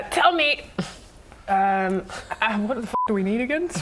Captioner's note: none